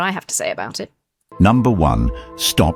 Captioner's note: AI Voice